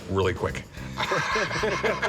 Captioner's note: laughter